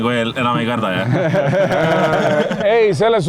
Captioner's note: all laughing